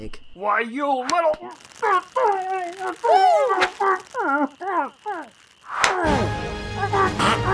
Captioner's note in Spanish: Duct tape murmuring and screaming haha dummy has duct tape on can't get it off